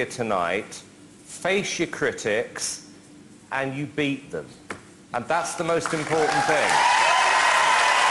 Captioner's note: applause